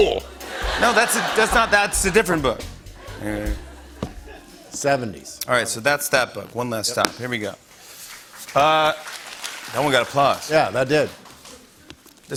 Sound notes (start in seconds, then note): 8.2 applause